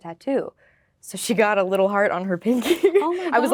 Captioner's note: laughing